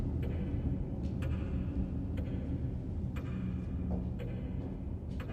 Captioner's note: clock ticking continues